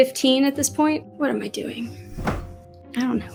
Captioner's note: fabric goes WHAP!